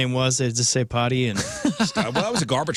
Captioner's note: laughing